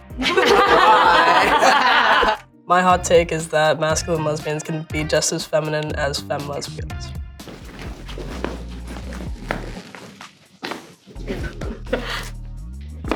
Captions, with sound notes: [everyone laughing] - My hot take is that masculine lesbians can be just as feminine as femme lesbian. [shoes thudding]